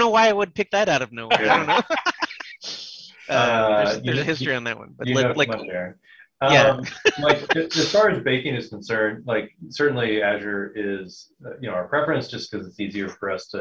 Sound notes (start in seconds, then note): 1.3 laughter; 6.4 laughs